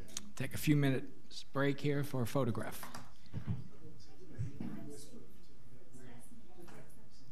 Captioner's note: people conversing